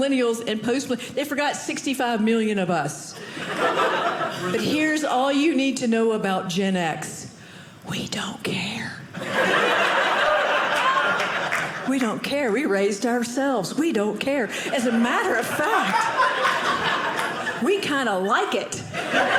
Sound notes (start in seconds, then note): 9.2 audience laughing